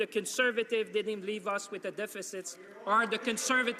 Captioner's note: some Applause